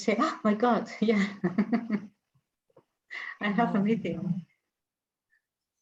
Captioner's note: laughs